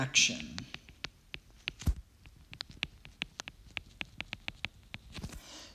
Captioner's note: writing